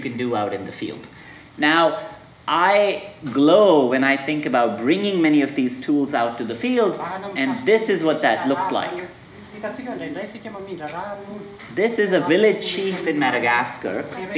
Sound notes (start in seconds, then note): 9.3 man speaking foreign language